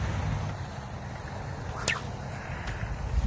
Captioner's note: splash; sling whips